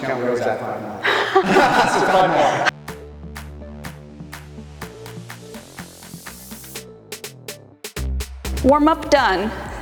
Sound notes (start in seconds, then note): 1.0 both laugh; 3.0 upbeat music resumes